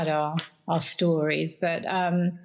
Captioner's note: laughs